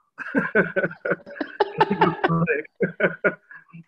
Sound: laughs

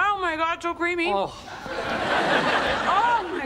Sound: audience laughing

